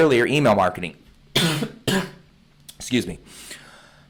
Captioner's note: coughs